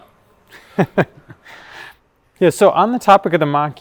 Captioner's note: laughs